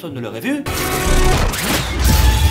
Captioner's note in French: Bruit du train; explosion